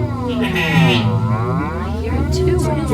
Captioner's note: sheep cries